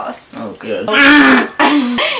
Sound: grunts/groans

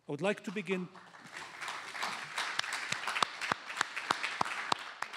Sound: applause

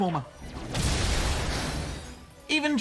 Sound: crash!

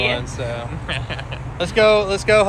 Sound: laughs

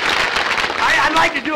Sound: applause

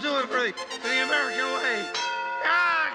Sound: bell rings

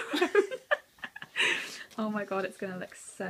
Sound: laughs

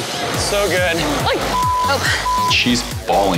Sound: beep

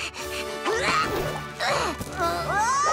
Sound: panting; grunting

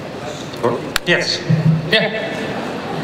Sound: voiceover

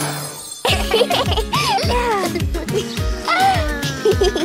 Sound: magical music; both laughing

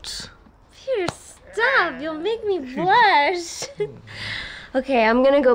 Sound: laughs

